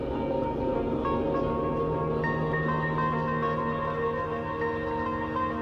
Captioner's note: distant traffic noises